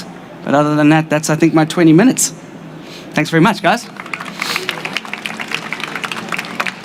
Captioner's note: applause